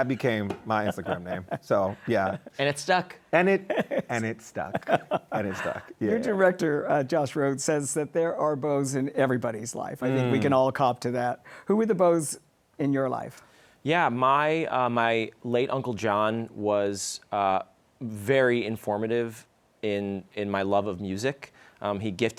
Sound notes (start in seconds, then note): 3.5 laughs